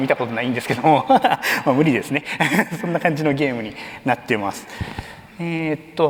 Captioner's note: laughs